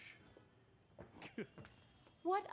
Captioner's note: joe chuckles